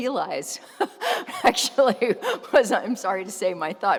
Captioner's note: laughs